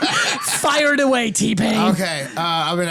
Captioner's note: laughter